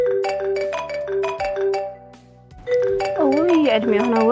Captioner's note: phone ringing